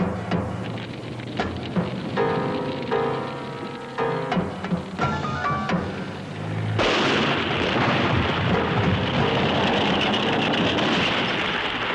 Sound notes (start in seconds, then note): 6.7 guns firing